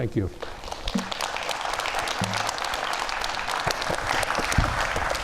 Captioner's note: audience applauding